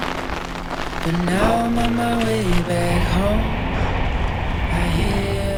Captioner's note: rain